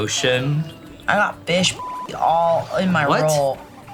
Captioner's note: beep